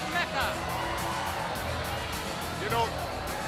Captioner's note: crowd cheering